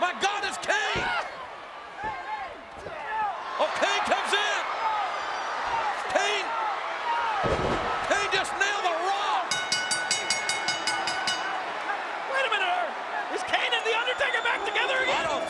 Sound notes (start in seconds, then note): 9.5 bell ringing